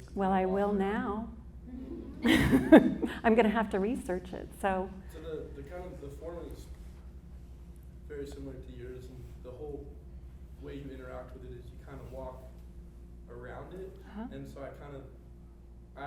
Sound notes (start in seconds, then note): 1.6 laughs; 1.7 audience chuckles; 8.2 speaks faintly